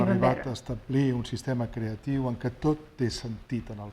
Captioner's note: speaking spanish